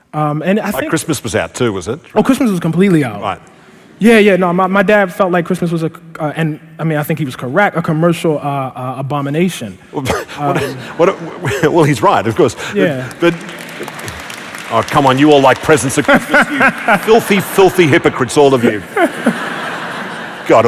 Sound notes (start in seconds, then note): 10.0 laughing; 10.1 laughter; 12.4 applause; 18.5 laughter